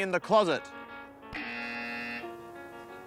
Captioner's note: buzzer